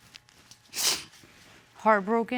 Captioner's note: sniffles